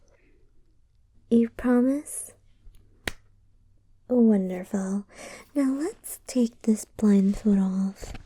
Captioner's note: claps her hands